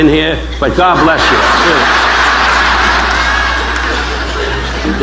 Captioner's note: audience laughing